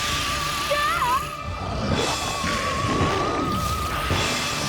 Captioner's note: growling